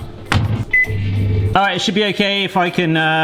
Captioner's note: microwave hoovering